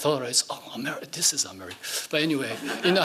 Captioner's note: laughing